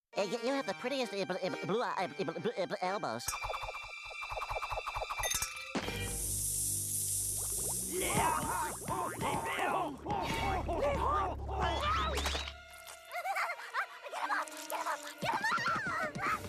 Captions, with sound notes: YOU HAVE THE PRETTIEST ELBOWS. [sizzling] [groaning] [screaming] GET THEM OFF! GET THEM OFF! GET THEM OFF!